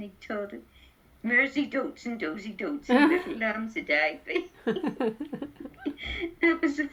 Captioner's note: both laugh